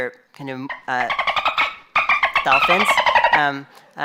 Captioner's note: dolphin noise